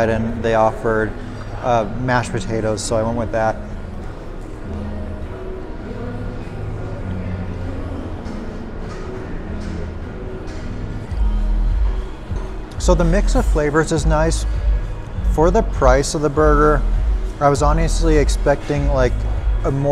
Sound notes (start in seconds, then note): 4.2 atmospheric music; 4.2 restaurant clamoring